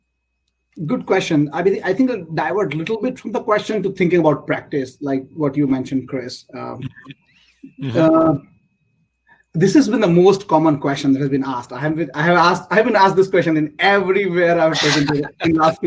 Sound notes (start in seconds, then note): 6.8 laugh